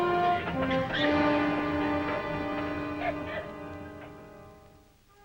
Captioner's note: prisoners cough